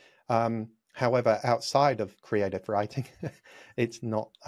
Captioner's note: laughs